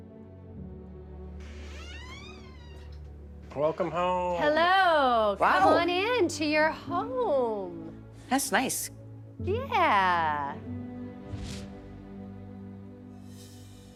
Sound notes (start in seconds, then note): 1.4 door creaking; 11.3 gentle music